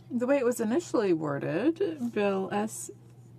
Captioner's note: speaking French